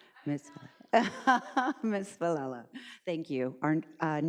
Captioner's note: laughs